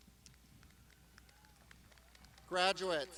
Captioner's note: crowd applauding